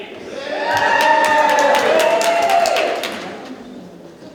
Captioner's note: audience claps